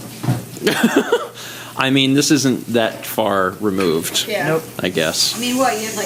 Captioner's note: laughs